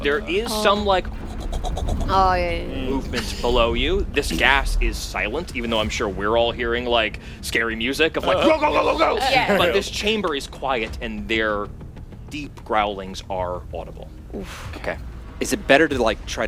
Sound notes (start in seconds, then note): 2.2 creature noises